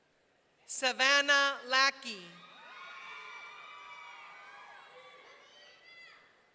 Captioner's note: audience cheering